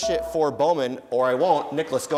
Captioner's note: dinging